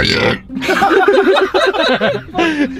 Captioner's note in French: rires